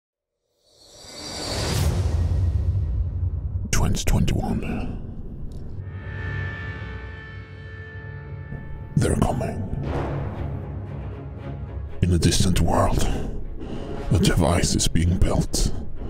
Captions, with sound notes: [dramatic music intro] [dramatic voice]: 2021 They're coming. In a distant world a device is being built.